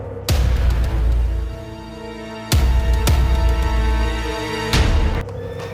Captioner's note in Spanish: Relincho